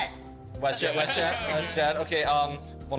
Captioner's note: laughing